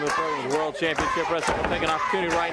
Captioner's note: crowd cheering